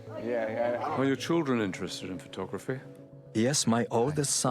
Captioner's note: voiceover